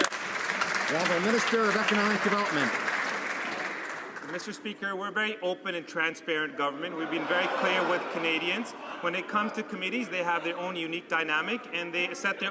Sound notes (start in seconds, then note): 3.2 some Applause